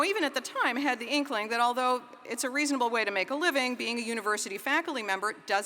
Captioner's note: none